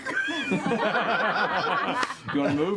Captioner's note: laughter